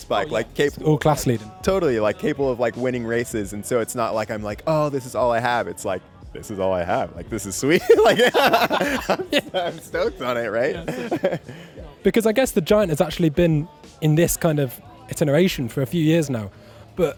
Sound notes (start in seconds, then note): 7.7 laughing